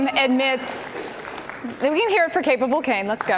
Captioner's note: audience applause